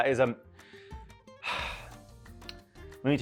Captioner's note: sighing